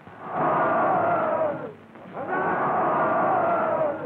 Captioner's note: shouting